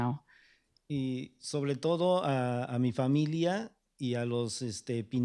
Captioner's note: speaking spanish